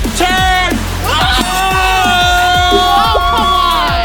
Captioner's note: cheering